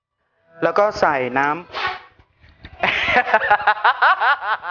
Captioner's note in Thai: ฮัดเช้ยยยย